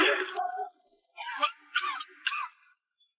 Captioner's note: cough cough cough